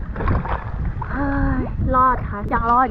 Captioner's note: sigh